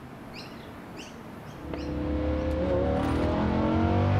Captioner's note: engine revving